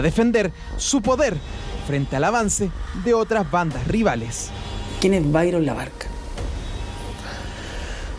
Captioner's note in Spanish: suspiro